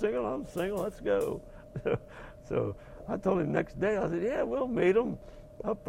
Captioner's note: laugh